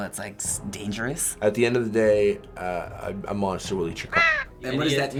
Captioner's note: caw!